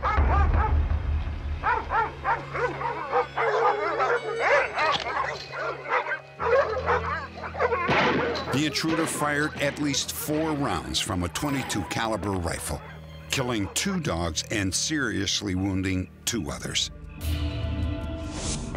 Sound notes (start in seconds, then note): 0.3 dogs barking; 4.8 gun loading; 7.8 gun shots